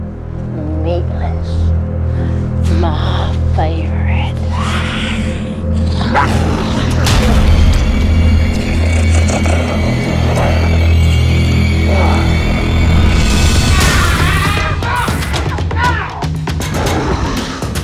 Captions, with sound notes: - Meatless, my favorite. (dramatic music) (priest yells)